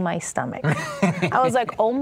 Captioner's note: laughing